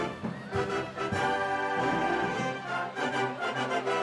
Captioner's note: cheers and applause